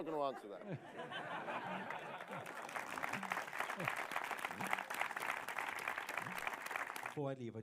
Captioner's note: laughter